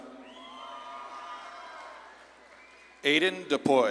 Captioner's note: audience claps and cheers